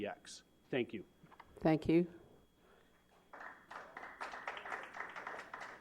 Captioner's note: applause